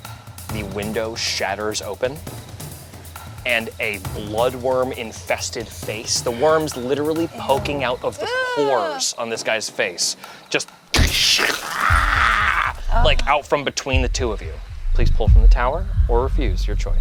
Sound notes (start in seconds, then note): 11.3 growls